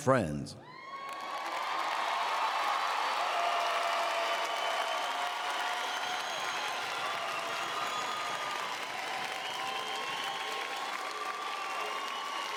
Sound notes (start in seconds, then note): 0.6 cheering and Applause